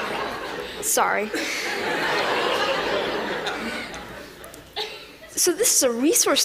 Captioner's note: Laughter; 笑聲; Laughter; 笑聲